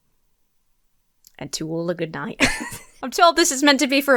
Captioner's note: laughs